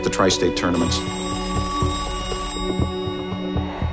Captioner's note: telephone ringing